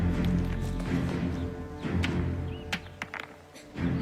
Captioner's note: tense music; Alexander gasps; stones hitting rock